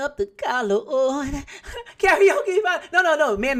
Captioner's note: laughing